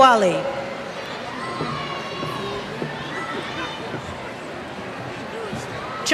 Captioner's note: cheers